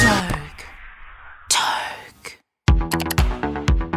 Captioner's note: whispering